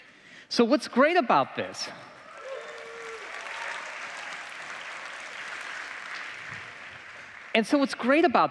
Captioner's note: applause